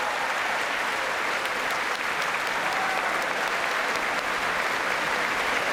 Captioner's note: applause